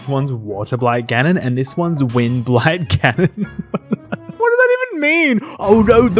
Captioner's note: laughing